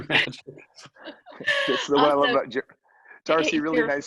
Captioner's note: laughing